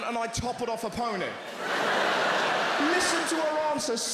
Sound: crowd laughter

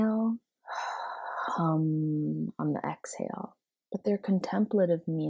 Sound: inhale; exhale

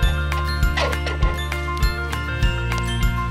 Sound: metal sliding; upbeat music

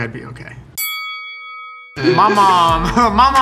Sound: chiming

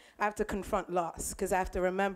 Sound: none

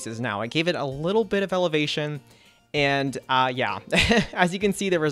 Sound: laughs

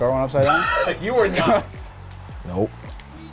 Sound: laughs

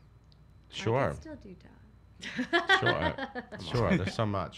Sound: laughs

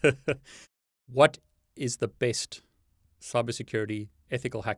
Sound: laughs; chuckles

